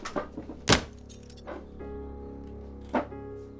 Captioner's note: none